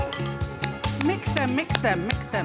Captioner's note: whistle blows